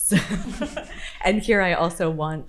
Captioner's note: participants laughing